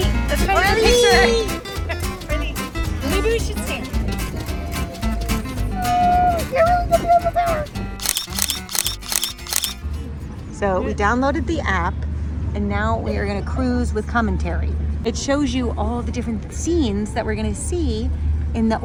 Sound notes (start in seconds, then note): 8.0 camera clicks